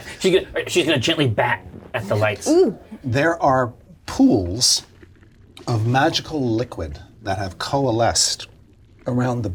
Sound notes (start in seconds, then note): 6.9 water pours